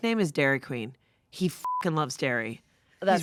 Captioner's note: beep